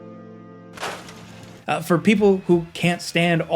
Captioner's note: upbeat ambient music; loud thump